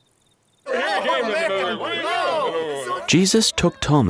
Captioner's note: disciples chattering